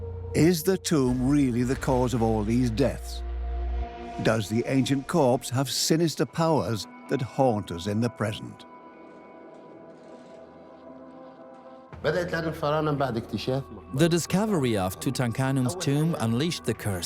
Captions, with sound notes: Is the tomb really the cause of all these deaths? Does the ancient corpse have sinister powers that haunt us in the present? (in Arabic) (dubbed in English) The tomb discovery unleashed the curse.